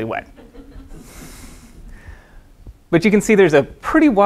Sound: crowd laughing

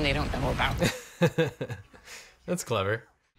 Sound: laughing

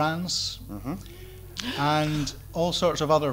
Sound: gasps

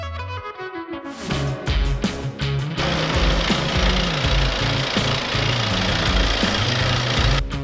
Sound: vibration machinery stablising rail track under construction

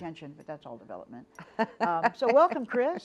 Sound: laughs

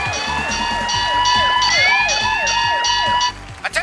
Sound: alarm blaring

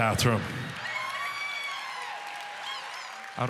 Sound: audience cheering

